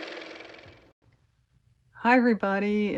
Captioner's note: car motor